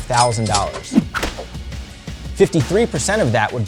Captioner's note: cash register ringing